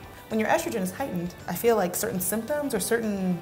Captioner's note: none